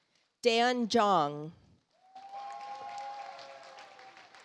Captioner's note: audience applauds